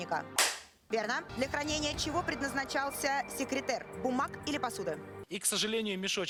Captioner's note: Hikakin's handclap